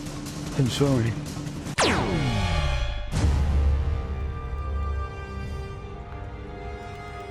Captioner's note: laser blast